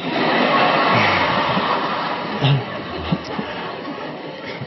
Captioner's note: audience laughing